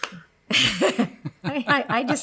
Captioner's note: claps; both laugh